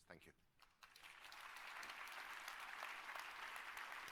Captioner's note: applause